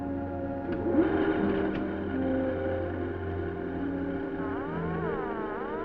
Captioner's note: machine whirs and buzzes